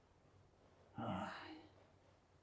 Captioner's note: sighing